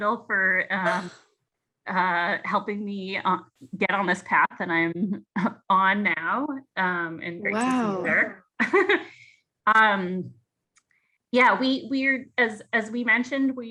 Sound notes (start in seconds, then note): 7.5 giggles